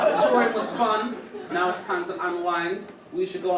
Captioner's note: audience laugh